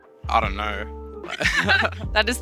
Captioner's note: both laugh